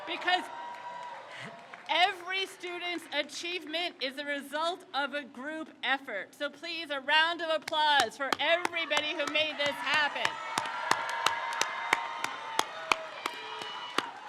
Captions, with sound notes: Because every student's achievement is a result of a group effort. So please, a round of applause for everybody who made this happen. (crowd cheers)